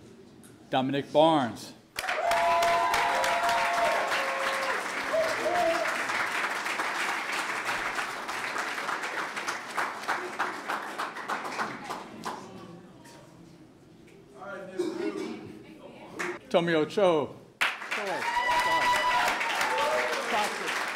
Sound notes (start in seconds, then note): 1.7 clapping; 17.6 clapping